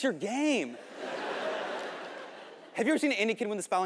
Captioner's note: audience laughing